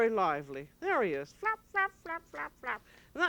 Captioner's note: flapping noise